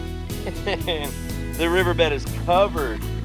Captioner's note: laughs